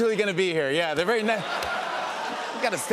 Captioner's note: laughter